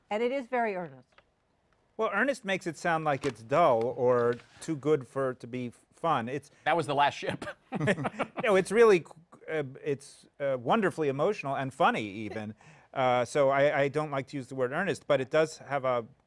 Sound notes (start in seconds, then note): 7.7 laughs